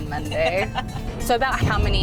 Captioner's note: laughs